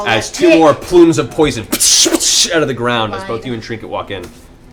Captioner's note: pff